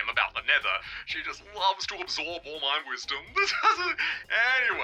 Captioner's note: laughs